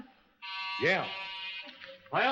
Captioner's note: buzzer sounds